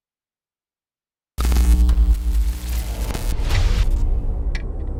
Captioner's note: static